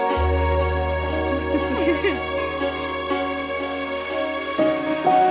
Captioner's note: laughter